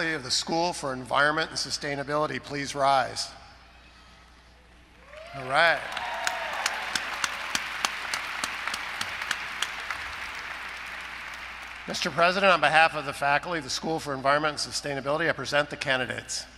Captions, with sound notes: of the School for Environment and Sustainability please rise. [ Applause ] Mr. President, on behalf of the faculty of the School of Environment and Sustainability, I present the candidates.